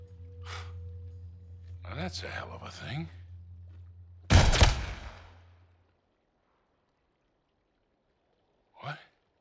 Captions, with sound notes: Well that’s a hell of a thing. (gunshot) What?